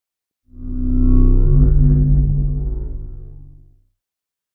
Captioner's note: spacecraft whirring